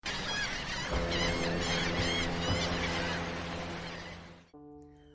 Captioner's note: birds chirping and boat horn